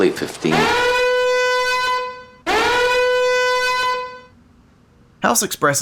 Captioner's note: alarms